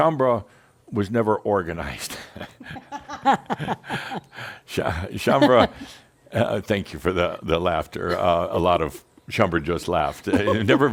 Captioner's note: they chuckle